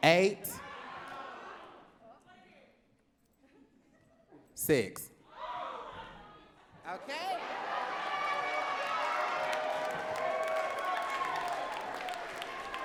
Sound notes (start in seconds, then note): 1.1 audience talking; 7.2 audience cheering and clapping